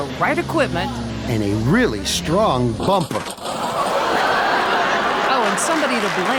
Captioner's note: metallic ripping